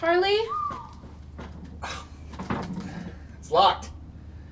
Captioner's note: mystery person whistling